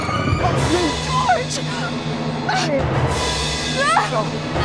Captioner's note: choking; music Sting